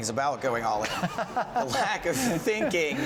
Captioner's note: laughing